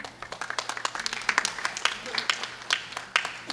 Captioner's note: clapping